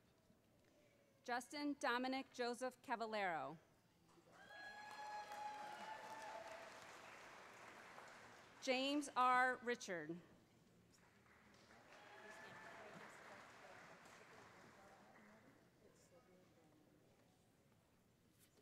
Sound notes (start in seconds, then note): 4.3 cheers